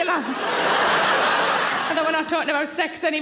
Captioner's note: audience laughing